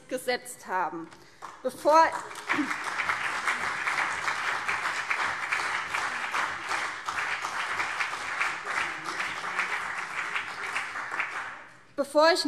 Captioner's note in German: Beifall CDU und BÜNDNIS 90/DIE GRÜNEN